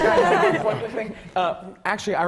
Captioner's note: laughter